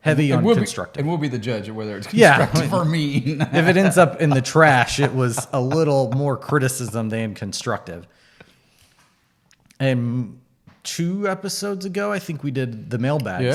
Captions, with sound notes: And we'll be the judge - Heavy on the constructive. - of whether it's constructive or mean. (laughs) - If it ends up in the trash, it was a little more criticism than constructive. Two episodes ago I think we did the mail bag,